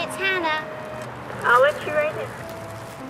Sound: voice on intercom

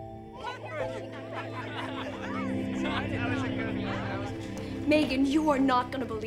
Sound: dramatic music; people chattering

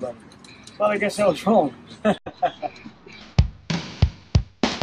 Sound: laughing; heavy metal music

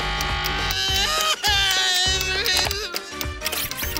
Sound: sobbing

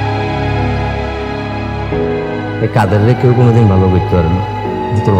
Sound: none

